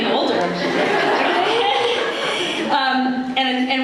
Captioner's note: laughter